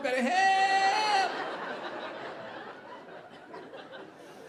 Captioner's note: audience laughing